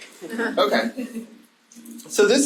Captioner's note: audience laughing